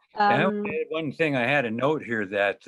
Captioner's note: mumbles